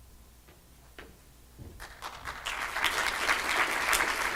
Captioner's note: applause